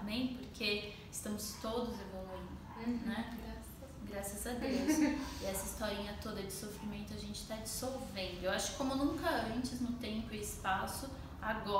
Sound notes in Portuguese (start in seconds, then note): 4.6 risos